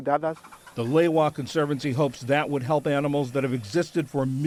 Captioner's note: voice-over